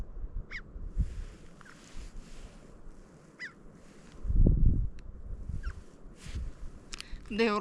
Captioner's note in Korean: 거슬리는 까마귀 소리